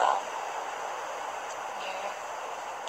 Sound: background ocean sounds

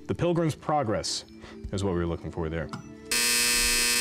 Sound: final buzzer

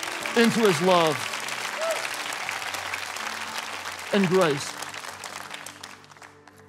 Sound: congregation clapping

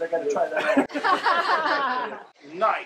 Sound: all laughing

